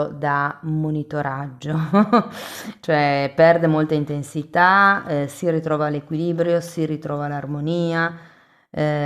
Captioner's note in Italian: risate